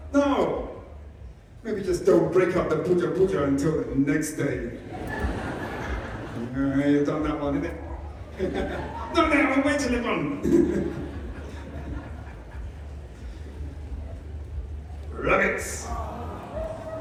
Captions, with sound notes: No. Maybe just don't break out the Booja Booja until the next day. You've done that one, innit! Not now, wait till they've gone. [Laughter] Rabbits.